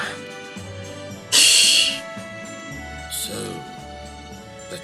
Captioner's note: laughs softly